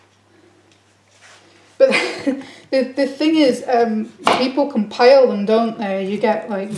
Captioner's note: laughs